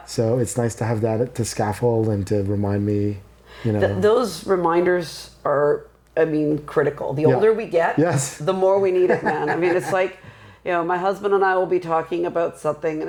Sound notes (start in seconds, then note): 9.0 laughing